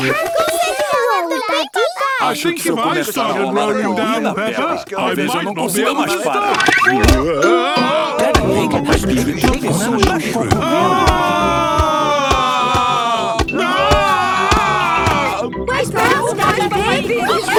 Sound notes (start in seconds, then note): 10.8 shouting